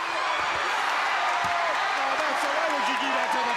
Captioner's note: crowd cheering